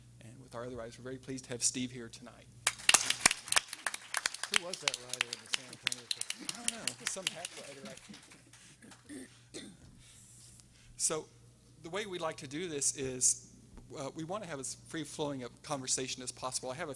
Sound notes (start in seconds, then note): 2.6 audience applauding